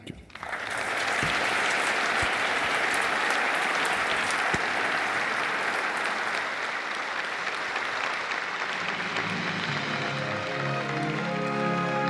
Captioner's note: applause; orchestral music playing